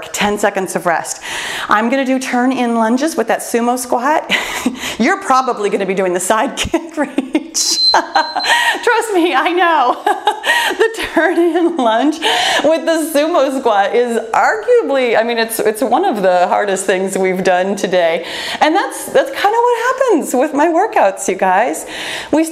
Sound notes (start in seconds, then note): 4.3 laughs; 7.6 timer beeps; 10.1 laughs